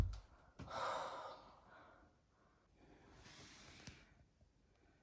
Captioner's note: Jason sighs